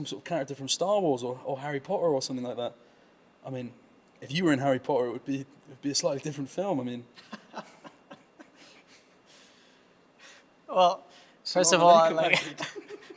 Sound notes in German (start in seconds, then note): 8.6 Gelächter; 11.9 lacht